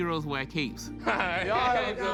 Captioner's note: laughter